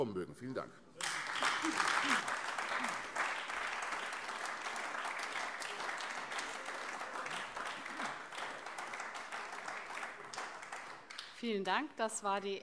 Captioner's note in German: Beifall AfD